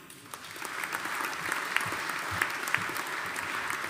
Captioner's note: audience applauding